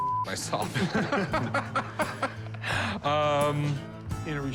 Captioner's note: laughter